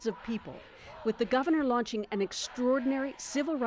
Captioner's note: chanting